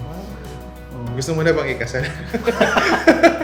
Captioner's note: laughs